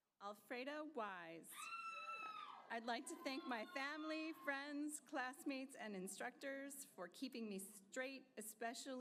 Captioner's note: applause